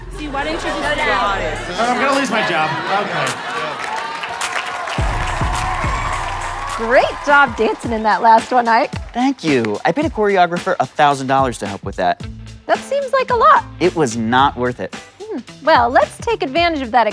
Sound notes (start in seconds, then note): 6.2 audience cheering